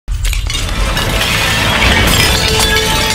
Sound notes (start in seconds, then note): 0.1 glass Breaking; 0.2 dramatic Music